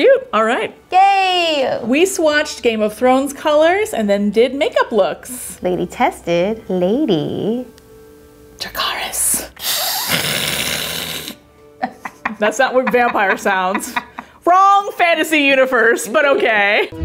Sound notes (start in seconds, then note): 9.6 hissing; 11.8 laughing